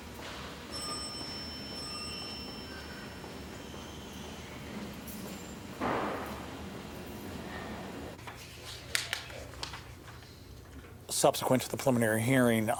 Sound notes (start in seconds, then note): 0.6 elevator dings